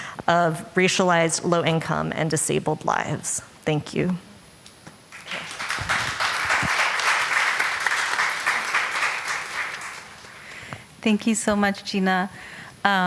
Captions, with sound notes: of racialized, low income and disabled lives. Thank you. [Applause.] Thank you so much, Jina.